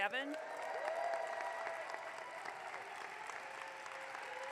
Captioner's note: audience clapping